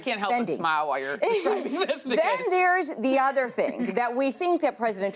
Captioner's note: laughs